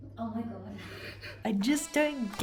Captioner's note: giggling